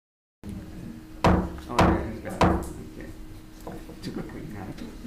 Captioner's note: gavel pounding